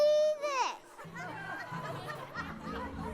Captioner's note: laughing